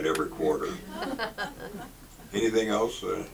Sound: audience laughs

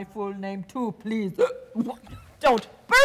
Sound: Sharik loudly burps

